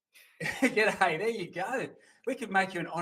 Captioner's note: chuckles